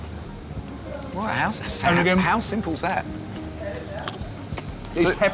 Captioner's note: crunching